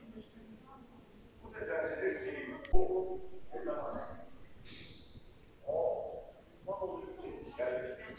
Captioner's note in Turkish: homurdanır